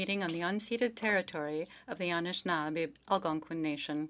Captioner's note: speaking French